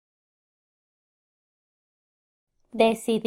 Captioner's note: in Spanish